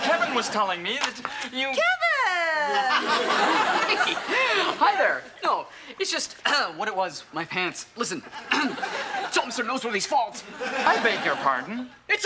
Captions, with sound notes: Kevin was telling me that you-- - Kevin! - (chuckles) Hi, there! No, it's just what it was, my pants, listen! (clears throat) Atoll, it's Noseworthy's fault. - I beg your pardon?